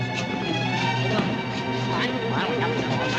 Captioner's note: indistinct chattering